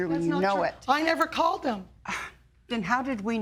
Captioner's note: scoffs